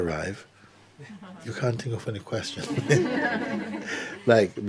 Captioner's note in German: Lachen